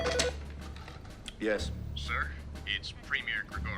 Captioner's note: phone rings; man over phone